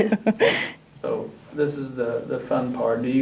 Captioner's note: laughs